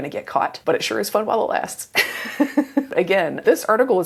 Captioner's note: laughs